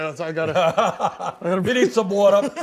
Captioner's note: laughter